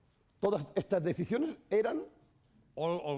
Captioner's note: speaking spanish